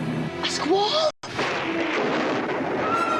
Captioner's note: thunder rumbling